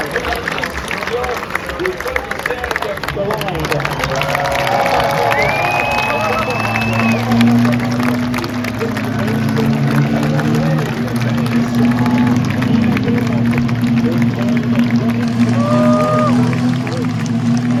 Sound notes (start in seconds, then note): 5.2 applause